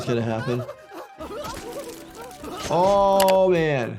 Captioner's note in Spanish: Lloriqueo de nuez